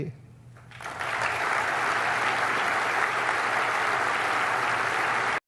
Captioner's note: audience applauds